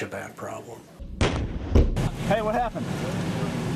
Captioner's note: explosion